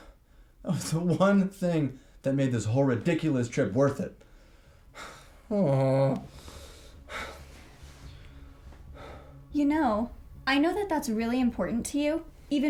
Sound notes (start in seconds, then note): 0.2 scoffs; 4.9 Blaine sighs and groans